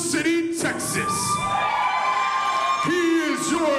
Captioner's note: crowd cheers